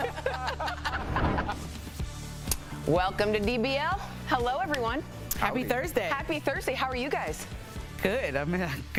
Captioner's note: laughter